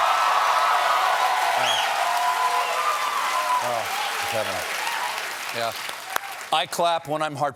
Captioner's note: cheers and applause